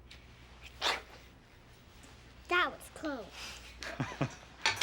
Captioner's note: sneezes; laughs